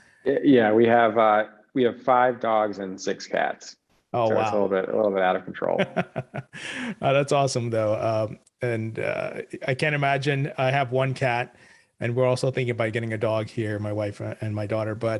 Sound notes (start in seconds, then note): 5.6 laughs